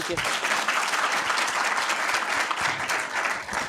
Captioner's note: applauding